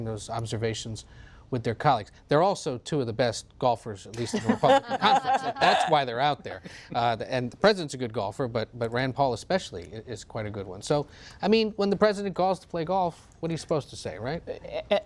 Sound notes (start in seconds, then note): 4.2 laughter